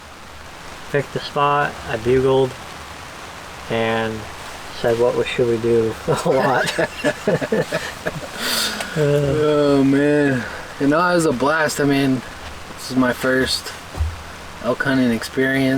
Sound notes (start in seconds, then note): 6.0 laughing